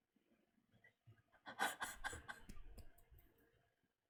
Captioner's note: laughs